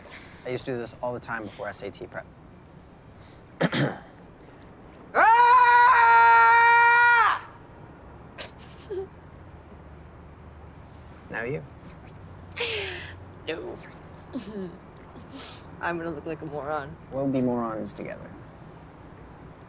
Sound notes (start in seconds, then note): 3.6 clears throat; 5.1 loud, long yell; 8.4 Bea chuckles; 14.3 chuckles